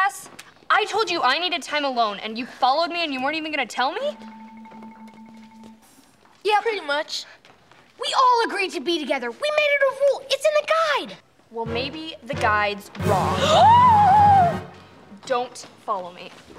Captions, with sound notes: I told you I needed time alone and you followed me and you weren't even gonna tell me? Yeah, pretty much. We all agreed to be together. We made it a rule. It's in the guide. Well, maybe the guide's wrong. [gasping] Don't follow me.